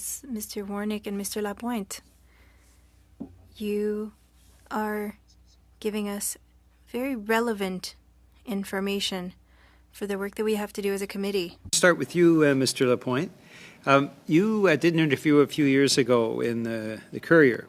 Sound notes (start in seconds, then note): 1.9 speaking French